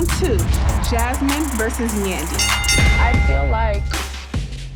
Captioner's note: bell dings